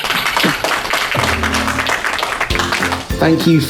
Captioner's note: applause